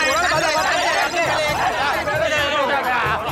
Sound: indistinct chatter

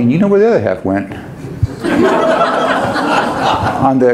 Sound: audience laughs

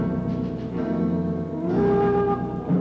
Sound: none

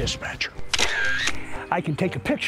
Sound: camera clicking

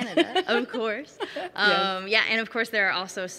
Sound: laughing

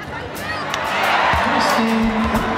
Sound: cheers and applause

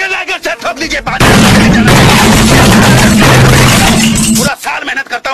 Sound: loud banging

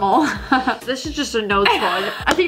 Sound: laughs

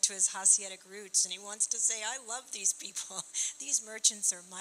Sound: chuckling

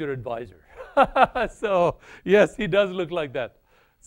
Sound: laughs

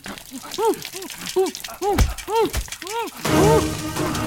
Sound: groaning

